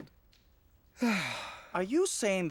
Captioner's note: heavy sigh